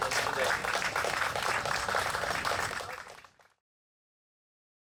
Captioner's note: crowd applauding